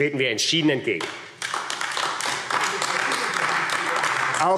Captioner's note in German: Beifall AfD